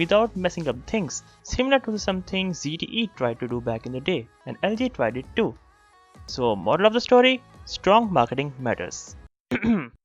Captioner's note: cough